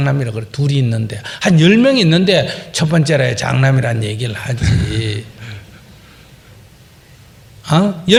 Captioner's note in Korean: 질문자 웃음